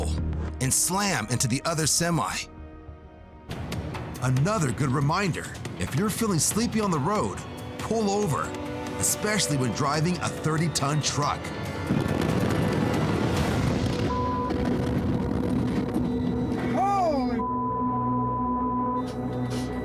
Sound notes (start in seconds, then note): 11.8 loud rumble